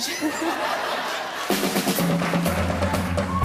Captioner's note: laughter